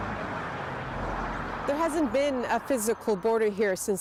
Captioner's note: a car drives